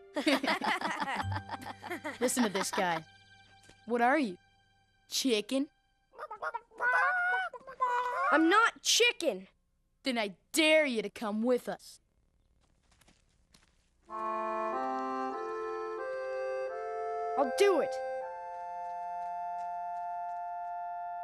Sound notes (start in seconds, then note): 0.1 snickering; 6.2 clucking